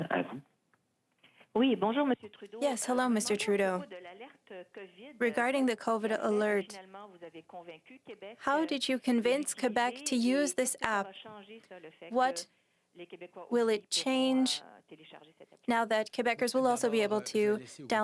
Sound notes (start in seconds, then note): 7.3 speaking French